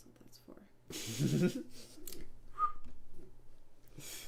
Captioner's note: laughing